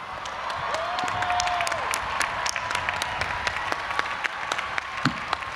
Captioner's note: audience applauding and cheering